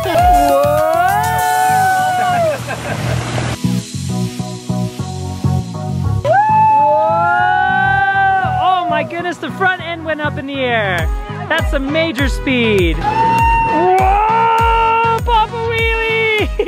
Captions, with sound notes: (dance music) (cheering) Oh my goodness, the front end went up in the air. That's some major speed. Pop a wheelie!